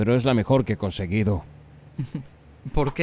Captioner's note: risas